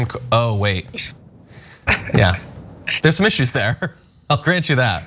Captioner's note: laugh